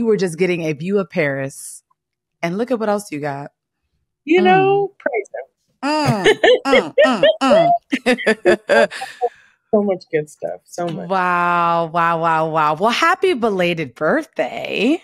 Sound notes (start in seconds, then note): 6.0 laughs